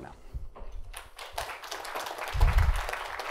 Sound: applause

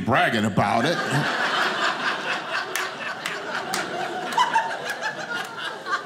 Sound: audience laughing

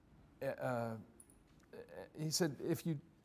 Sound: stammering

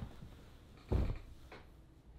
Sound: soft thud

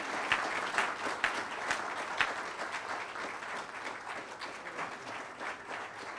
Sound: audience applauds and cheers

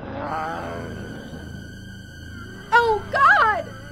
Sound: spooky music; zombie growling

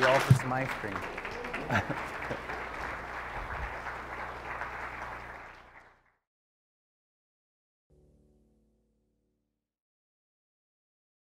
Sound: laughter

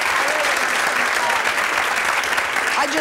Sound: audience clapping

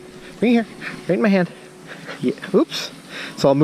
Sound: panting

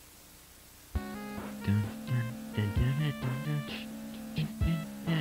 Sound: humming

